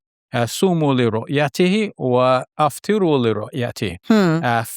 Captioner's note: speaking Arabic